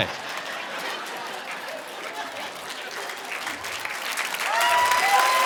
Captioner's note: audience laughing and applauding